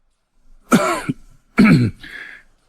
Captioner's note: coughs